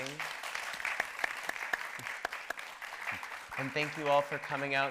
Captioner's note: audience applauding